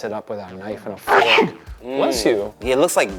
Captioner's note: sneezes